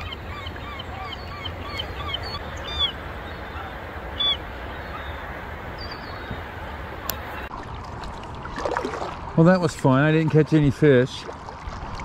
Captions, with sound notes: (seagulls calling) (water lapping) Well, that was fun. I didn't catch any fish,